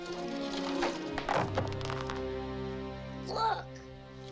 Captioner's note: nuggets clattering